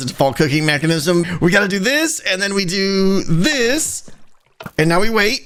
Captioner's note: button clicks; redstone noises